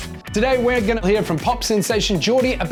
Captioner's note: whooshing